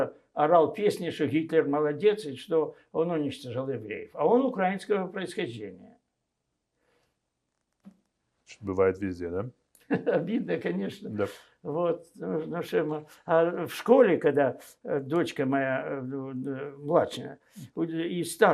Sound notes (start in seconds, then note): 9.9 laughing